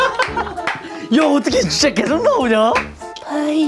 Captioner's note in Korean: элэгээ хөштөл инээх